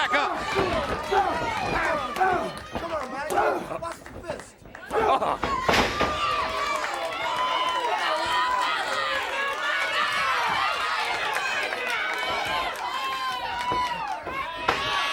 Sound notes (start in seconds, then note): 2.7 crowd chatter; 4.7 crowd cheering